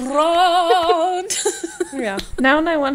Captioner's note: laughing